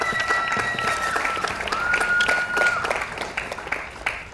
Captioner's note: audience applauds